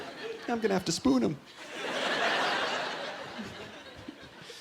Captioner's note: laughter